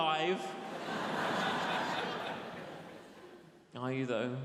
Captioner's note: audience laughs